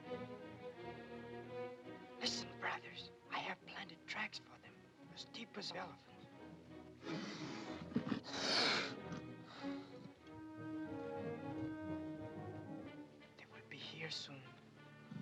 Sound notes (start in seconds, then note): 0.0 ominous music; 7.0 panther hisses and growls; 10.0 ominous music